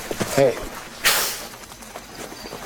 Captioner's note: hiss